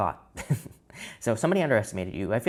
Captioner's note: man chuckles